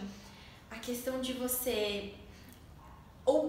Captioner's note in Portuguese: none